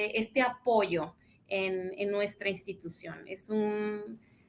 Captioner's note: speaks in Spanish